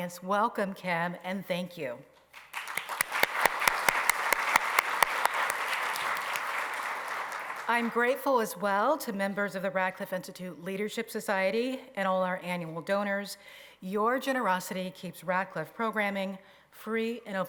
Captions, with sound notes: Welcome, Kim, and thank you. [applause] I'm grateful as well to members of the Radcliffe Institute Leadership Society and all our annual donors. Your generosity keeps Radcliffe programming free and open